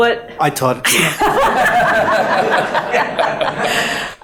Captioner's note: all laughing